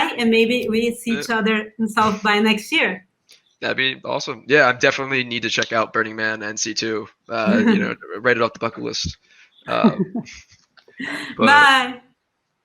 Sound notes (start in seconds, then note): 9.6 laughs